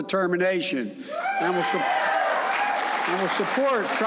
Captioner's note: applause